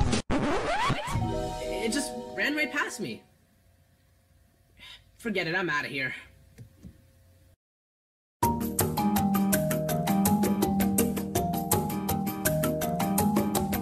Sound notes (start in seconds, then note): 4.8 sigh